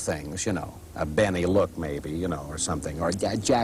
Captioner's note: imitating Jack Benny; imitating Jack Lemmon